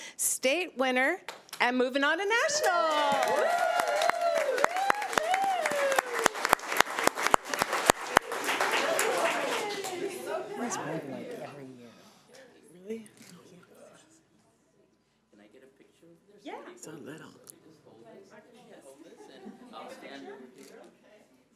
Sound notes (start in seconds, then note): 2.4 crowd applauding